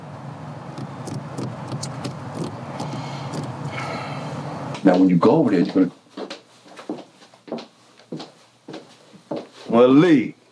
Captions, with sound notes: (Brandon sighs) - Now when you go over there you're gonna. Malik.